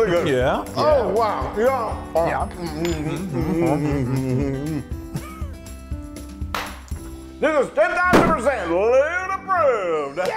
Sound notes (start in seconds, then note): 2.3 laugh